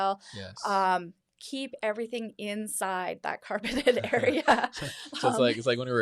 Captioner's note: laughs